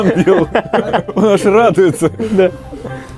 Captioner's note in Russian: смех